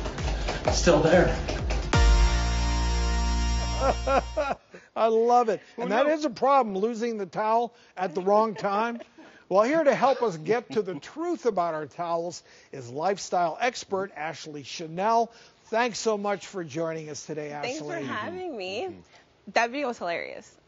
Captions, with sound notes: Still there. - (laughing) I love it. And that is a problem, losing the towel at the wrong time. Well here to help us get to the truth about our towels is lifestyle expert Ashley Chennel. Thanks so much for joining us today, Ashley. - Thanks for having me. That video was hilarious.